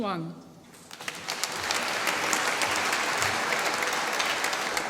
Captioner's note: applause